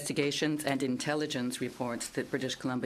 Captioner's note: speaking in French